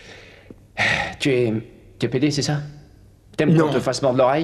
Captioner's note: sighs